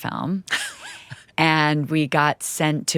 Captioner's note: chuckles